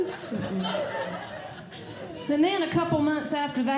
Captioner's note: audience Laughing